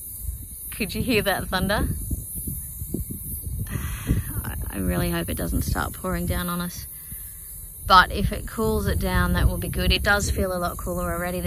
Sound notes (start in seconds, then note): 0.6 thunder rolls quietly in the background; 3.6 sighs